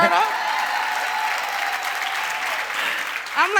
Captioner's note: applause